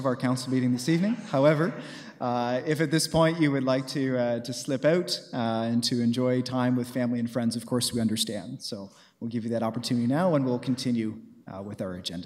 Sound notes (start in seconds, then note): 3.0 chuckles